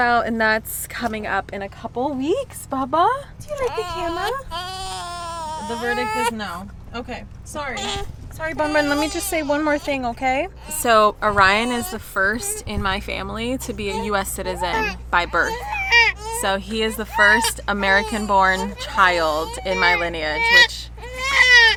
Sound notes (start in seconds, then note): 3.6 baby groaning; 21.0 baby crying